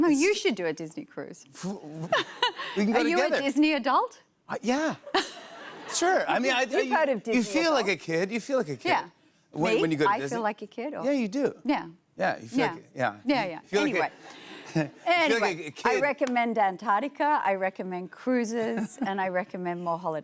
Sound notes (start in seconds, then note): 5.0 laughter